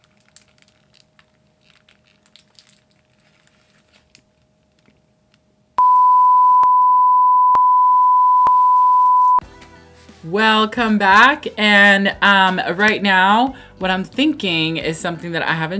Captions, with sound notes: *sensual eating sounds* *beeeeeeeeeppppppppp* Welcome back and right now what I'm thinking is something that I haven't